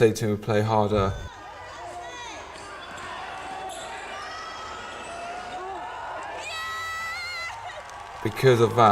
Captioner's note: cheering